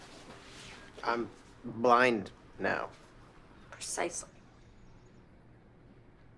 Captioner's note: none